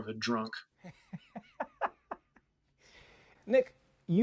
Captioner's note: laughs